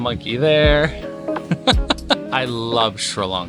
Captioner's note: laughing